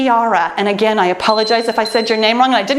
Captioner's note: timer beeps